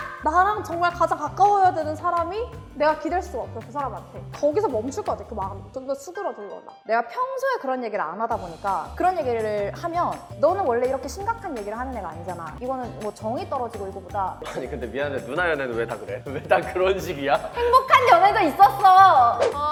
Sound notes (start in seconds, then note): 17.0 laughs